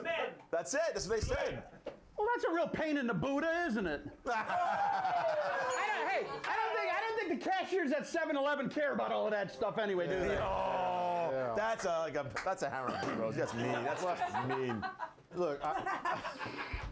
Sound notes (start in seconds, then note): 4.2 laughter; 5.6 bell rings